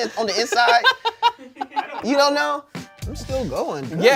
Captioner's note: laughs